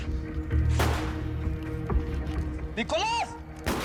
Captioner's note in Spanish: Disparos